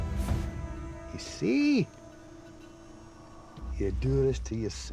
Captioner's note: scottish accent